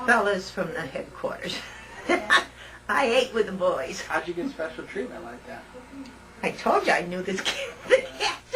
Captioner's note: laughter